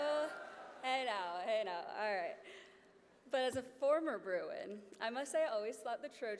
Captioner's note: boos